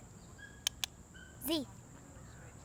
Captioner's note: mouth clicking